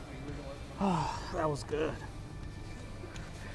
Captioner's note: gasps